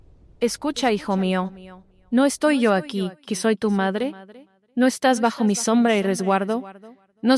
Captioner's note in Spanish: Voz - Virgen María